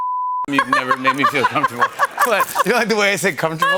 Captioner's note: laughter